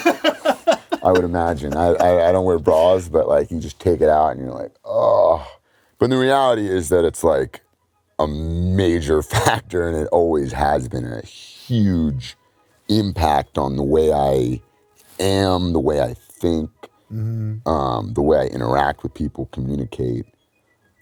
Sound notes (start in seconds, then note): 0.0 laughs; 5.2 grunt of relief